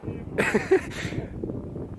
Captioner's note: hater laughs